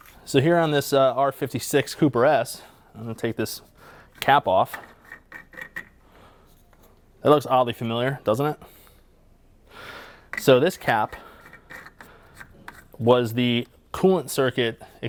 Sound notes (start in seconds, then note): 4.7 cap unscrewing; 10.8 cap tightening